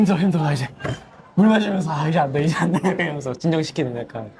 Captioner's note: drinking water